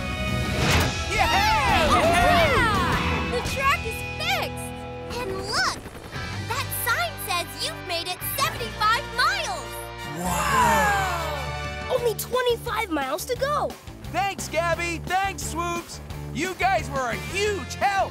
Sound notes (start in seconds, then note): 1.0 cheering